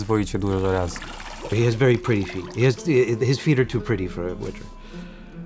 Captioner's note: in English